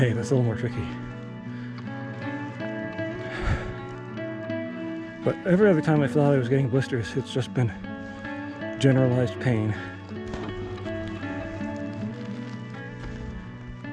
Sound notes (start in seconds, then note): 2.5 dry grass rustling; 3.8 breathing heavily; 10.2 gravel crunching